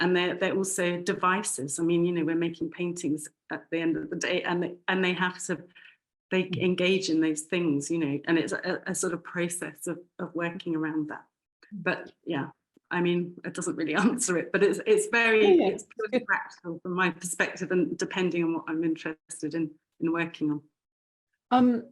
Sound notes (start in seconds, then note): 15.4 chuckling